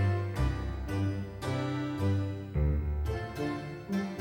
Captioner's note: none